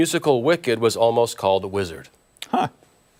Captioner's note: laughter